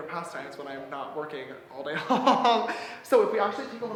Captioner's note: laughs